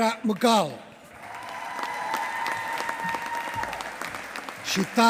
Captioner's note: applause